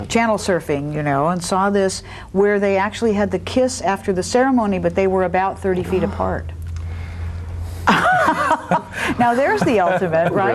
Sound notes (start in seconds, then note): 7.8 laughs